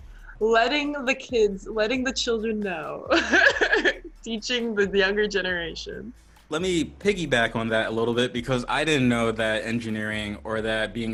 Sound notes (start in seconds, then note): 0.0 laughs